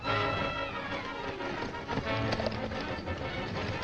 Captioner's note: hooves thundering